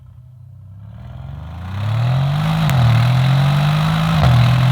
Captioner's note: car engine revving